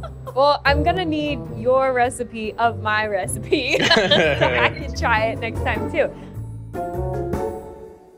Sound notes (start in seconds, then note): 0.0 laughing; 3.8 both chuckling